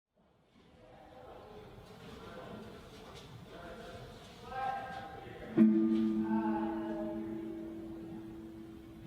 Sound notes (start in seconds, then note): 0.6 ambient distant, echoing voices; 5.5 guitar note strikes